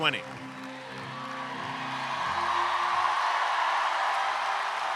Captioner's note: everyone cheers